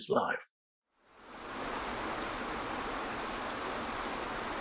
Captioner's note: water splashing